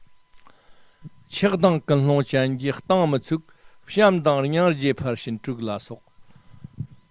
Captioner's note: tibetan